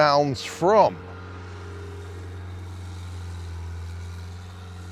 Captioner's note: forklift whirring